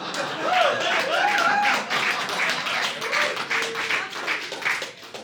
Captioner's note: audience applauding